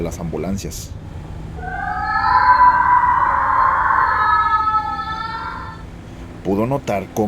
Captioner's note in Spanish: Sonido de sirena de ambulancia mezclado con lamentos